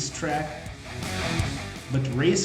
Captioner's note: engines revving, cars noises